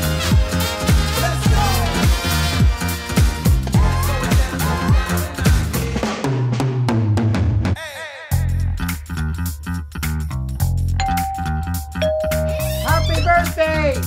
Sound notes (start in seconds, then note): 11.0 door bell rings